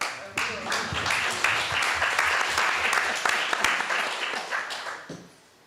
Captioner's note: applause